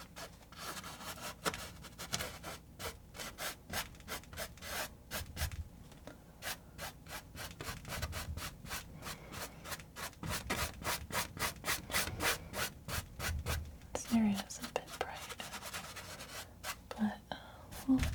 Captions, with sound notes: [scratching] This area is a bit bright, but we'll